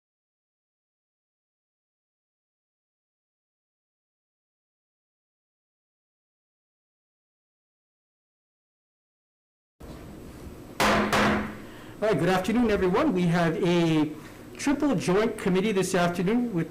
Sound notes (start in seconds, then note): 10.8 gavel striking